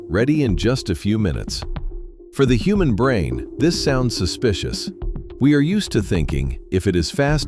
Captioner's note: thoughtful